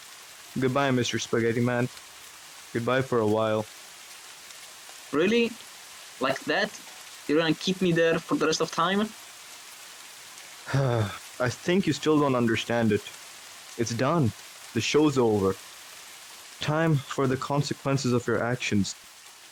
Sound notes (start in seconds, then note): 10.6 sigh